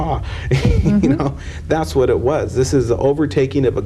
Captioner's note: laughter